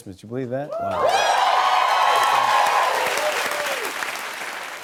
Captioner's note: cheers and applause